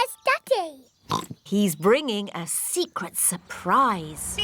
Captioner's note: oinks; horn honks